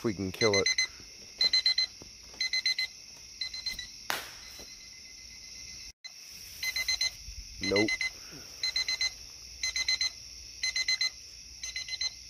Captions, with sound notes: lets kill it *hard Tak of phone landing on concrete* *still beeping* nope